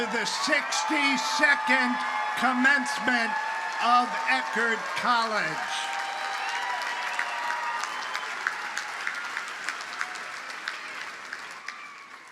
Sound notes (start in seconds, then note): 6.1 audience cheers and applauds